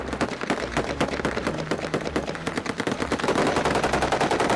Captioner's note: gunshots